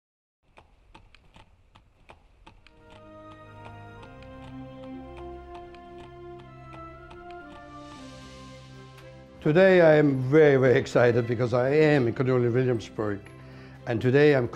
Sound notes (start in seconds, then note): 0.5 horse hooves clomping